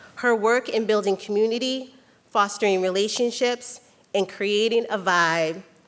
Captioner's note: none